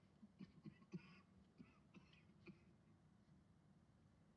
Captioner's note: coughing